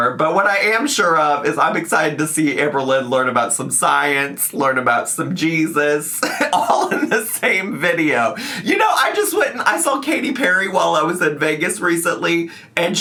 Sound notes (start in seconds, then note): 6.2 laughs